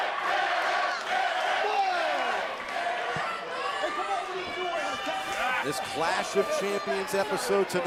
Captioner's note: crowd cheering